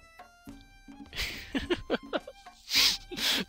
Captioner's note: chuckles